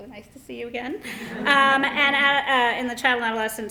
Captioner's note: laughter